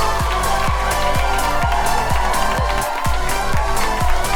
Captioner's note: whooping and cheering